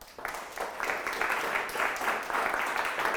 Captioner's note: applause